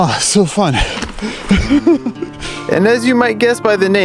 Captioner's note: laughs